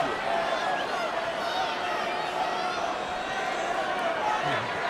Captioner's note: audience chattering